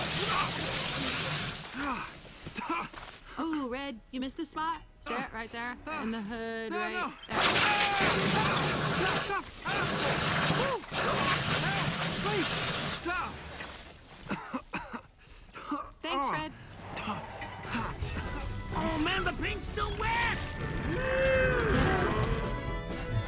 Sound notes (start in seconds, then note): 0.0 spluttering; 7.6 water splashing; 14.2 coughing